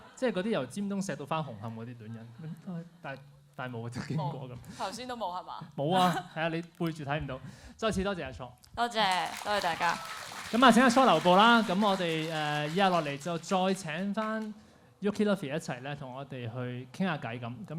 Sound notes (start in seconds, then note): 6.1 laughs; 9.0 applause